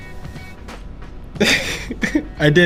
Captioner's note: laughs